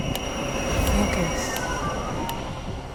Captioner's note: metronome ticking